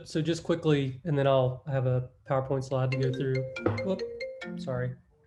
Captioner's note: phone rings